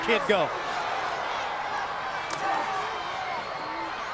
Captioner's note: crowd yelling